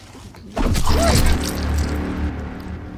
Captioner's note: stabbing impact and bloody squelch